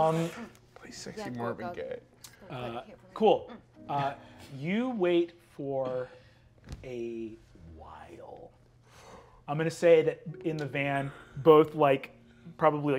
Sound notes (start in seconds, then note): none